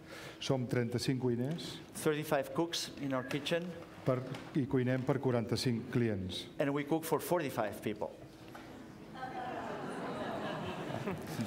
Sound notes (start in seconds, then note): 0.8 speaking catalan; 4.9 speaking catalan; 9.2 laughter